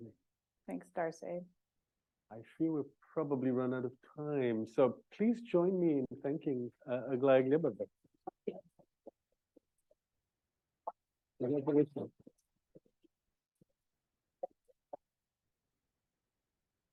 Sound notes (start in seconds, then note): 8.1 audio muffling; 11.4 distortion drowns out